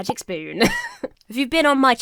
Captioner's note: laughs